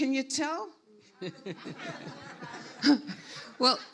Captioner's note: everyone laughs